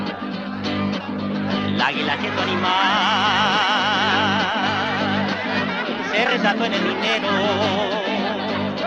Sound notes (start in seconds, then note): 0.0 lively chatter; 0.0 upbeat music in Spanish